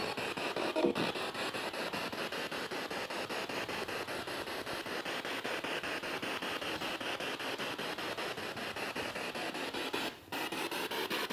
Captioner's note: noise of the spiritbox in the background